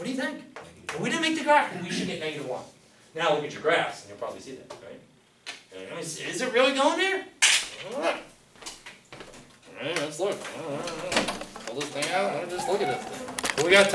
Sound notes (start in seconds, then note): 8.0 grunts